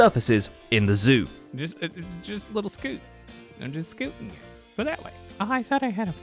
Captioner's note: stammers